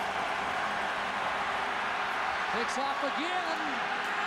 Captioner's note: crowd din; cheering and applause